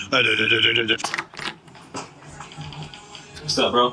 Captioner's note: door open